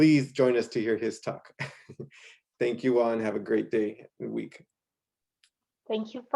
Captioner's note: laughter